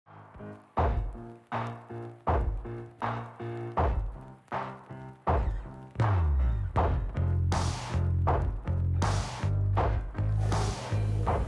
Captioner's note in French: en choeur